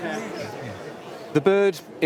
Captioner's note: crowd gasps